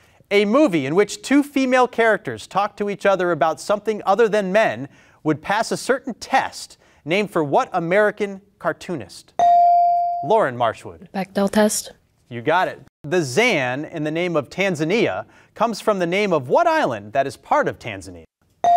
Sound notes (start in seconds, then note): 9.4 beep